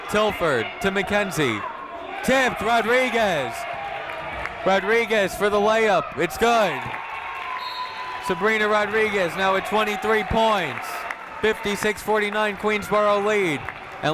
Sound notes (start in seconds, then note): 7.8 people cheering in the crowd